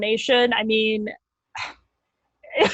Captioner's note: exhales, laughs